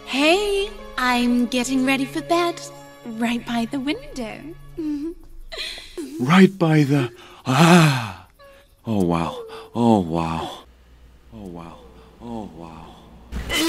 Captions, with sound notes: - Hey, I'm getting ready for bed, right by the window. - Right by the? (panting) Oh wow, oh wow, oh wow, oh wow.